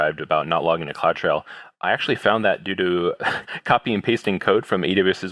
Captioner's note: laugh